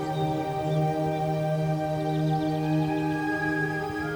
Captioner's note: birds chirping